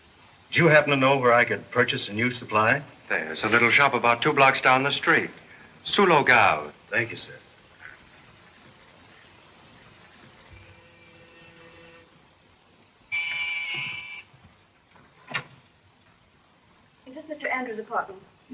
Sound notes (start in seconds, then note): 13.1 doorbell rings